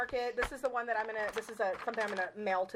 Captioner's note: paper rustling